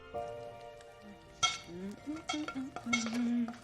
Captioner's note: humming